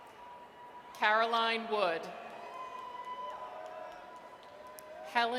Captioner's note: audience cheers